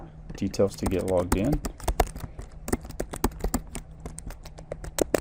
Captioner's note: keyboard thumping